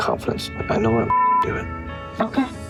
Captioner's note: beep